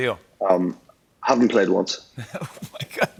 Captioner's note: laughs